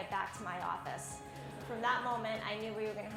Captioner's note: laughing